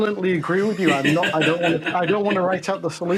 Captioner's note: laughs